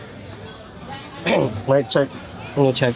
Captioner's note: clears throat